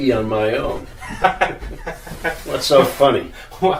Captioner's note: Mike laughs